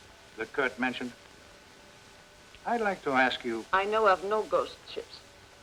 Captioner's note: none